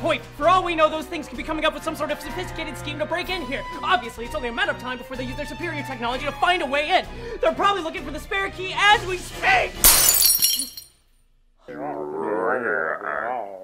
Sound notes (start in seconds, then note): 9.8 glass shattering